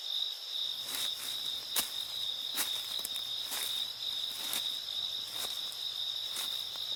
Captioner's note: leaves crunching; crickets chirping